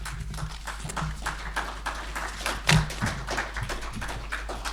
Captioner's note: audience applauding